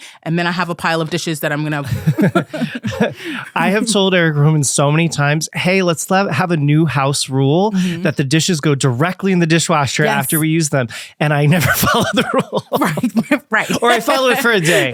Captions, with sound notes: And then I have a pile of dishes that I'm going to -- (Both laughing) I have told Eric Roman so many times, “Hey, let's have a new house rule that the dishes go directly in the dishwasher after we use them. And I never follow the rule. (Laughing) Or I follow it for a day.